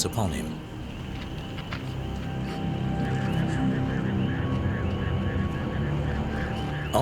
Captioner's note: spheric sound, birds calling